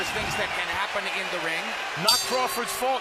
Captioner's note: bell rings